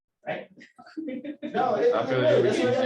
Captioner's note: laughter